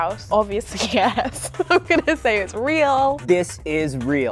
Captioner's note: laughing